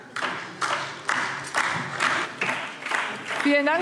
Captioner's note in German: Beifall DIE LINKE